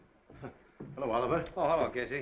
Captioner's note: Casey chuckles